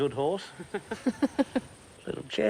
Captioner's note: women laughs